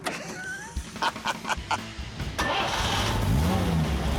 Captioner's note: laughs; starts car